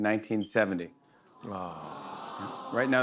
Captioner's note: audience "awws"